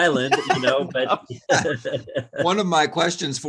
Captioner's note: panelists laughs